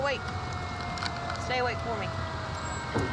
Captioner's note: sirens